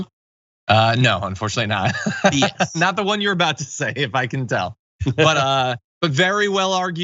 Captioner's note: laugh